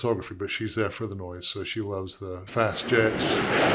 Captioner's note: roaring jet engine